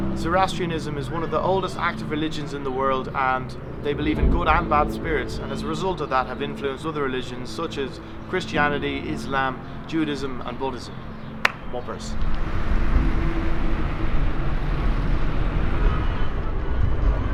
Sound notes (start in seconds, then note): 11.4 claps